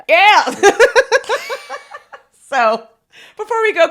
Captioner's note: both laughing